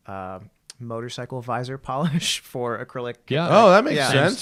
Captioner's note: laughter